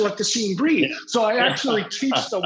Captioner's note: laughs